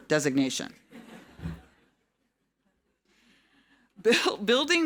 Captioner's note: audience laughing